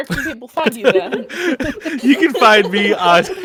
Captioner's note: the Group all laughs